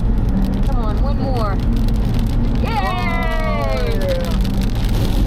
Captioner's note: rain getting louder on windshield